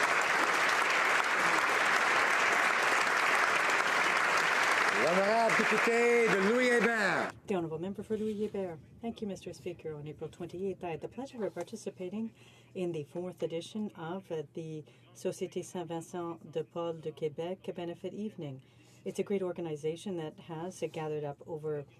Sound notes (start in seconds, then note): 1.9 applause